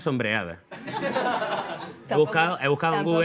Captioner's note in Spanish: Risas